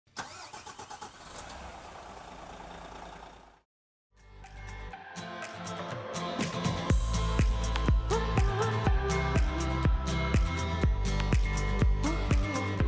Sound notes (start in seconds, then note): 0.2 coach engine soaring; 4.4 upbeat music playing